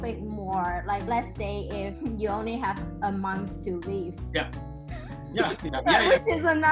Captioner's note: laughs